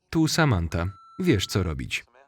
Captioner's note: beep